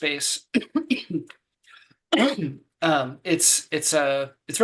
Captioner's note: coughing